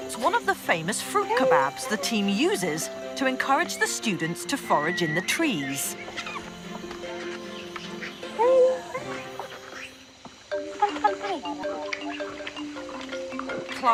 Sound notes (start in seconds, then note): 6.3 orangutans squeaking; 10.6 bright upbeat music